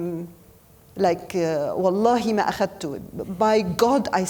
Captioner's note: speaking foreign language